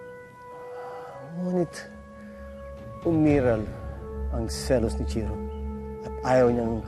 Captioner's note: sighs